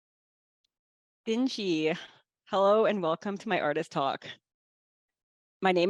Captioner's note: speaking in Northern Tutchone